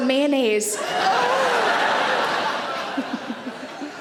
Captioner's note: audience laughs